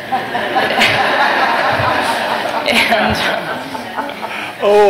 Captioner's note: laughter